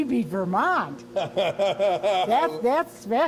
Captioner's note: laughs